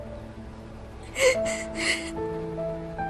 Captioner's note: sobbing